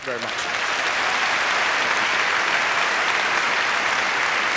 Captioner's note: applause